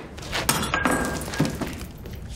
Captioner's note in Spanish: Estallido de vidrio